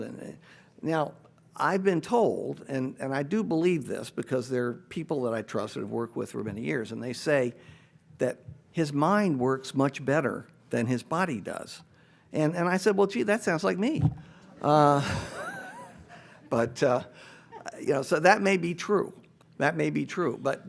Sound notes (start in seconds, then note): 14.9 everybody laughs